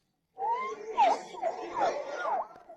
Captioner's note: baby crying